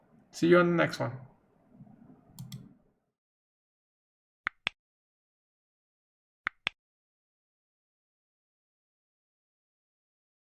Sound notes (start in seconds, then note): 4.1 clicking